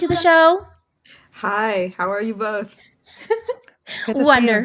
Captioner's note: giggles